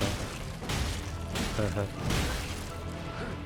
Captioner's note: chuckles